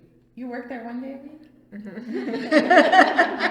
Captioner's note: all laugh